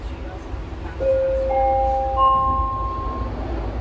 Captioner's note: door Closing Chime